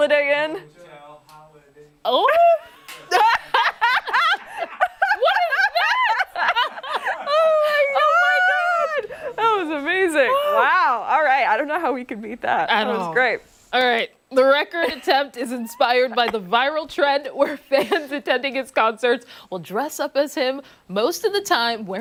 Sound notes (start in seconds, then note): 9.5 laughter